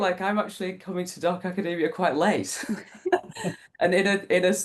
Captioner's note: laughs